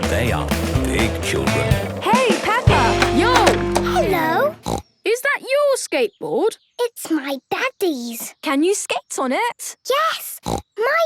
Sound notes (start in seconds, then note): 3.8 snorts